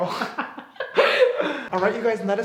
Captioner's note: laughing